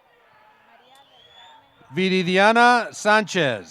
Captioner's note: applause